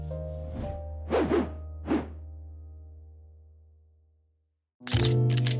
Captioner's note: rolling sound effect